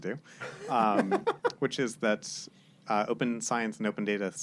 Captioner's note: laughs